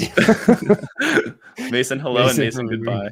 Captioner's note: laughter